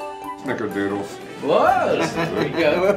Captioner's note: laughing